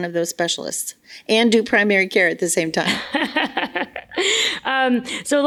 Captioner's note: laughs